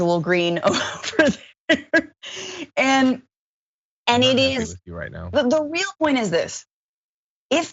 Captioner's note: laugh